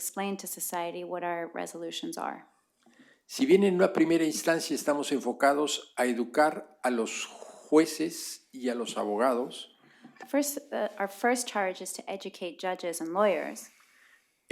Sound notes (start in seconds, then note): 5.5 spanish; 9.6 spanish